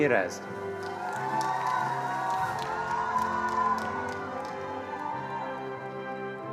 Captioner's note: attendees cheering and applauding